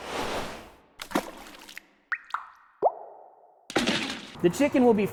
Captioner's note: splashing and dripping